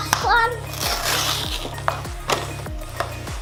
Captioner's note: tearing sound